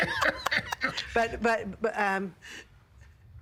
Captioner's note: both laughing